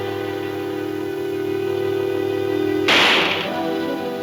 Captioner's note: gun firing